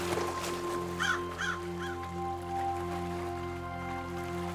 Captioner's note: bird caws